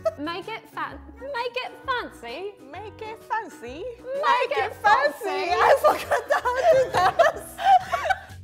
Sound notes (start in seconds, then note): 5.4 laughing